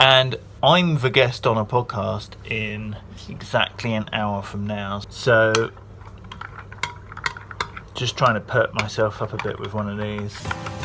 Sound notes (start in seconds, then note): 6.0 spoon stirring in glass; 10.4 upbeat music